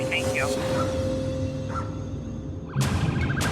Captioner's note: dog barking; siren wailing